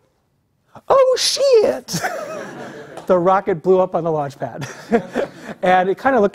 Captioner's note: laugh